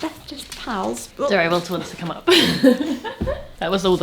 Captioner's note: laughs